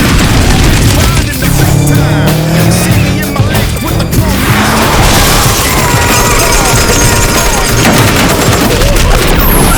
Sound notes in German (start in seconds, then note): 4.2 Schreie, Schüsse; 8.4 stöhnen